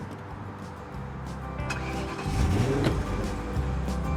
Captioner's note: starts car